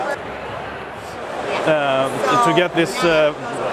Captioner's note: crowd noises